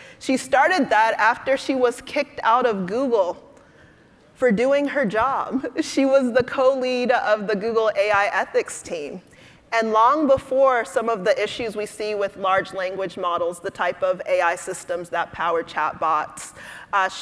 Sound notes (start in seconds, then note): none